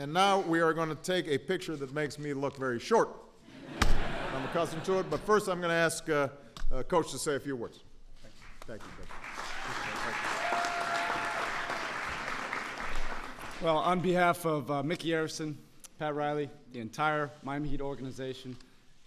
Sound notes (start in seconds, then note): 3.6 laughter; 8.3 applause